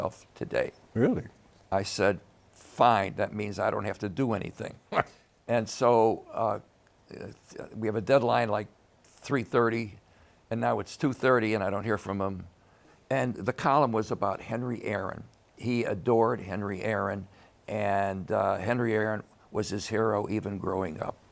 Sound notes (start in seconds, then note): 4.9 laughs